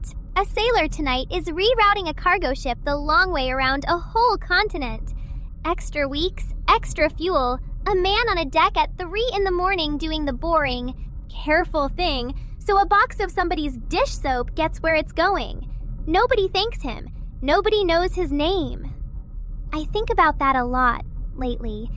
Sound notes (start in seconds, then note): 16.6 breath